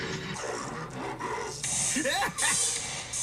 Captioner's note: laughing spookily; spooky voice speaking; laughing spookily